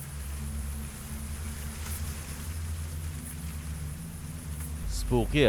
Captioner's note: leaves rustling in the background